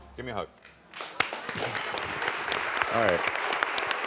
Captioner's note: audience applauds